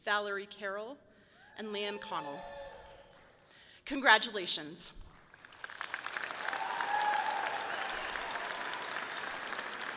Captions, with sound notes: Valerie Carroll and Liam Conlon. (audience cheering loudly) Congratulations. (audience clapping loudly)